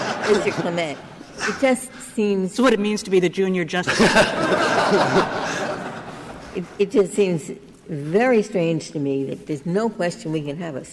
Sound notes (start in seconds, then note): 3.8 laughter